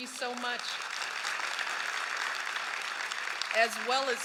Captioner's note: applause